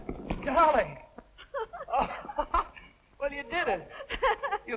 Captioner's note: laughing